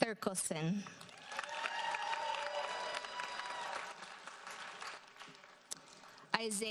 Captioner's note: audience cheers and applauds